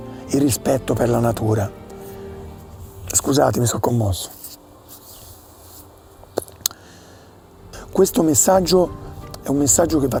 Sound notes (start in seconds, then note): 3.7 continues speaking Italian